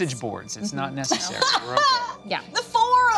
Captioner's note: laughing